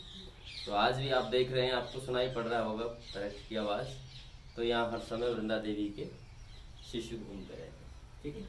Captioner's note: birds